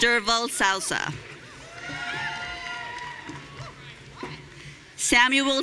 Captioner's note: audience cheering